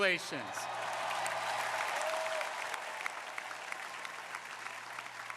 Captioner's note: crowd applauding